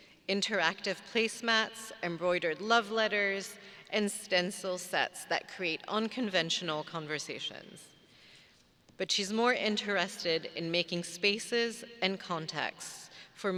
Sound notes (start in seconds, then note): none